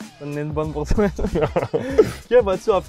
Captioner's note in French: rires